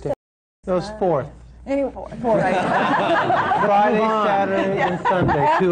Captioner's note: laughter